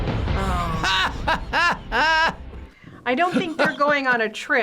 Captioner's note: laughs